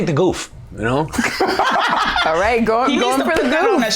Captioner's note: both laughing